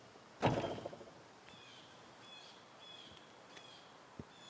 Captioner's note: door closes